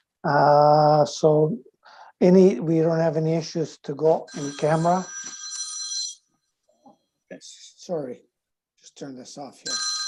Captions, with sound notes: So we don't have any issues to go in camera. (phone ringing) Sorry, just turn this off here.